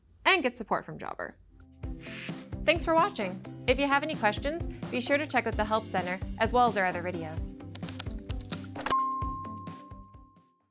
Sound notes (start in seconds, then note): 7.7 keyboard clacking; 8.9 logo dings